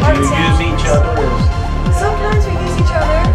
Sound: students talking

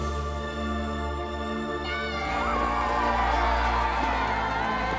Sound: cheering

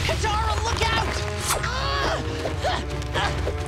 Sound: grunting

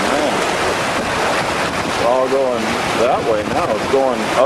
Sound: water rushing loudly

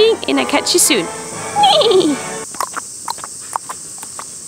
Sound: neighs

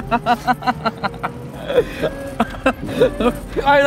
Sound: both laughing

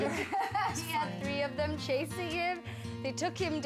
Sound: laughing

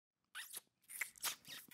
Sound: kissing

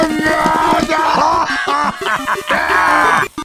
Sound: Peppino shouts; Demoman laughs

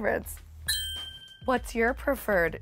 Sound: beep lightly

